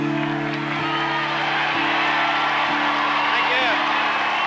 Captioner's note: audience cheering